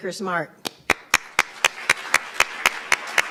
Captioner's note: applauds